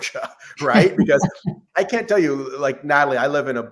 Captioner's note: laughs